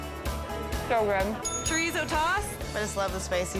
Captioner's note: bell dings